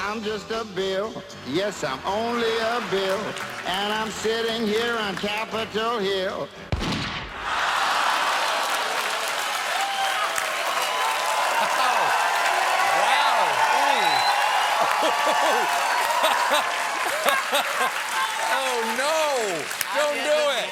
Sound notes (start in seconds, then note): 6.7 gunshot; 9.9 cheers and applause; 16.0 laughter